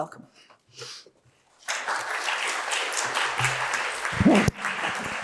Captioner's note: applause